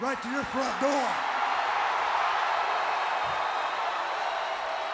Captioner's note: crowd cheering